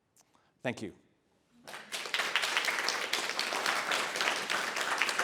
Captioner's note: applause